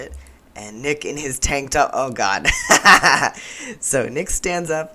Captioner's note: laughter